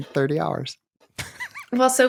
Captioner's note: giggling